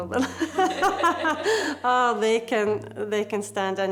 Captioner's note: both chuckling